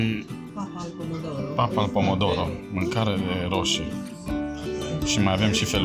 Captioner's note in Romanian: vorbind italiană; vorbind italiană